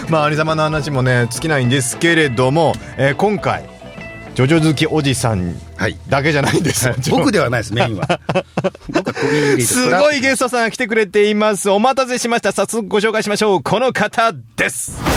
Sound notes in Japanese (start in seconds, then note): 6.3 笑い